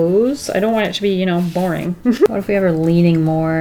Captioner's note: laughs